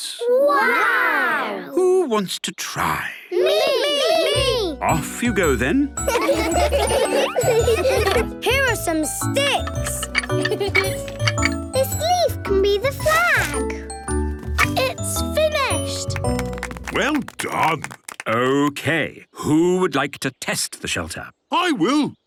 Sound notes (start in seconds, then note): 6.0 laughter; 10.5 laughing; 16.0 applause